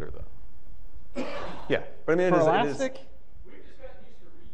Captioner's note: overlapping chatter